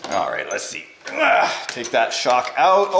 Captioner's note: grunts